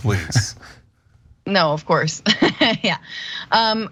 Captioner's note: laugh